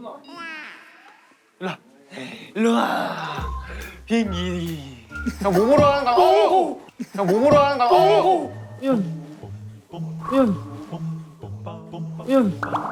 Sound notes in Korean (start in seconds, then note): 7.5 쿵!